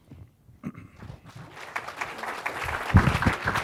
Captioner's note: applause